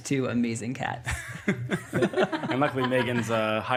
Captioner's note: all laughing